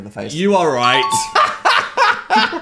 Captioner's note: bell dings; Dan laughs